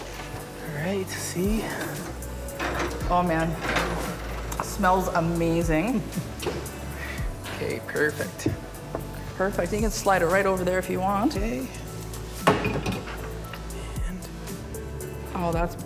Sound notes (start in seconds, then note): 3.1 laughing; 9.5 pan clattering